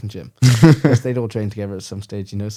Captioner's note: laughs